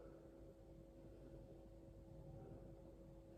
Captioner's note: breathing sounds